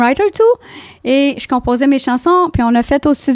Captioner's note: in french